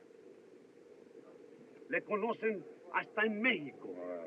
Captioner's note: speaking Spanish